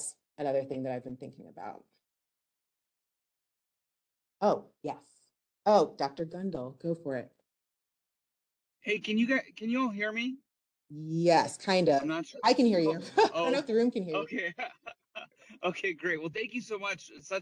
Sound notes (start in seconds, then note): 14.0 laughs